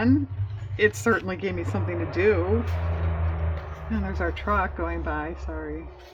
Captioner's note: loud truck sound